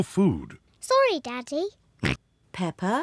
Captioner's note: oinks